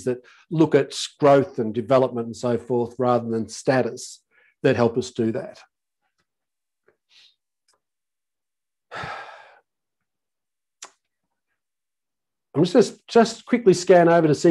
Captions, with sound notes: that look at growth and development and so forth rather than status, that help us do that. (sighs) I'm just quickly scan over to see